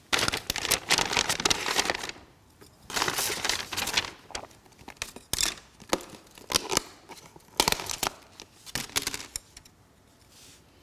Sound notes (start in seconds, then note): 0.0 bag crinkling; 6.6 container popping